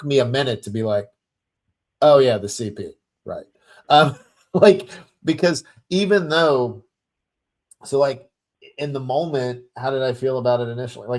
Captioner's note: chuckles